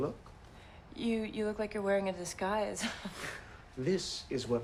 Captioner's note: chuckles